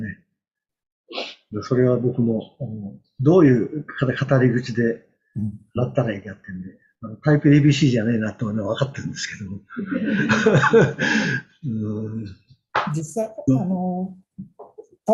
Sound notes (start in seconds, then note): 9.8 laughs